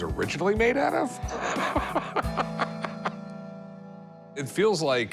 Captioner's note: laughs